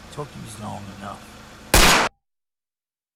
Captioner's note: gunshot